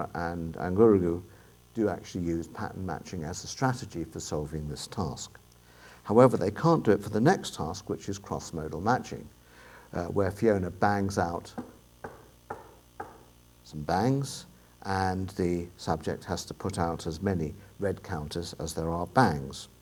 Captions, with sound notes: and Angurugu do actually use pattern matching as a strategy for solving this task; however, they can't do it for the next task, which is crossmodal matching, where Fiona bangs out [Knocking] some bangs, and the subject has to put out as many red counters as there are bags.